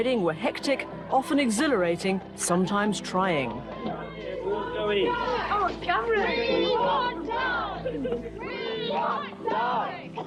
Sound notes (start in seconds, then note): 2.8 crowd chatter